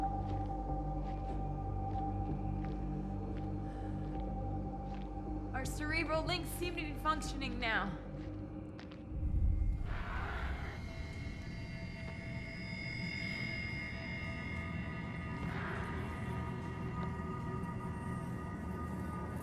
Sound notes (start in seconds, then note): 9.8 alien roaring